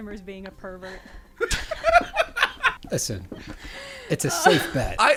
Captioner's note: laughter